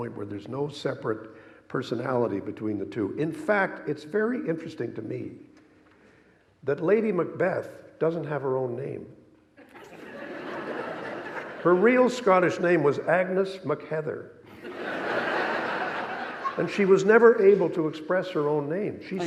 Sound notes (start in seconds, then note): 9.6 audience laughing; 14.5 audience laughing